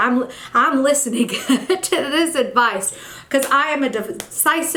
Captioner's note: chuckle